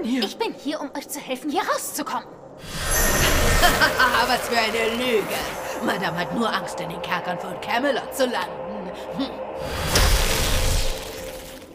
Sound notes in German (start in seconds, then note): 2.5 lacht; 9.8 Zauberhafte Klänge